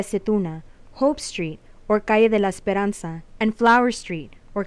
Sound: speaking in foreign language

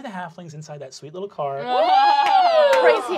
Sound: laughing

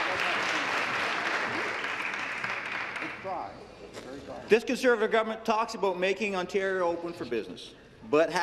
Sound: applause

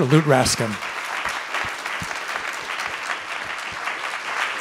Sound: audience clapping

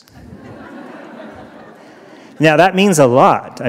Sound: laughter

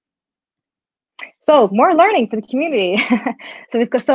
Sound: chuckles

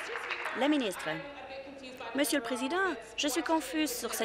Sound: applause

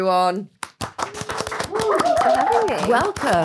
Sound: people applauding

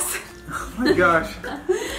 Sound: laughing

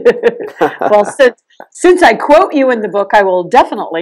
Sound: everyone Laughs

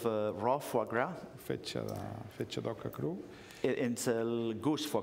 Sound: speaking catalan

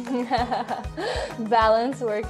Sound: laughter

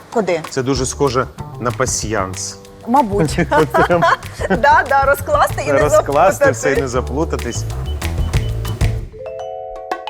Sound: laughs; clicks on computer keyboard

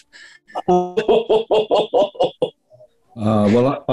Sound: chortling

